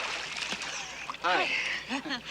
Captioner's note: breathes heavily; chuckles